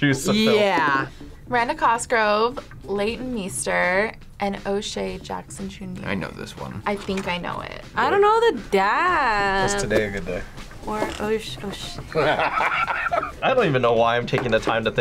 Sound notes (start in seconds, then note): 12.1 laughs